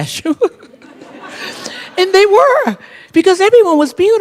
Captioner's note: laughter